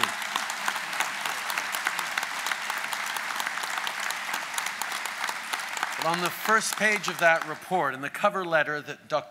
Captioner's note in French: Applaudissements